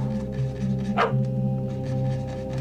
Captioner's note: sighs; dog bark